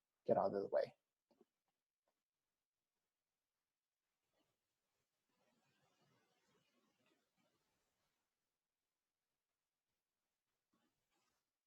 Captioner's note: silence, skip to 15:27